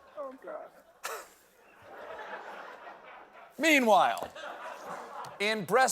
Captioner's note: laughter